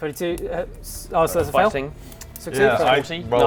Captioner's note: none